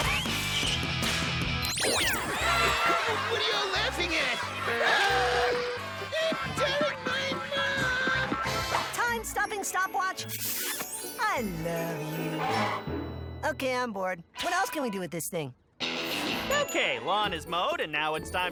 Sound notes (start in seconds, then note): 2.2 kids laugh hysterically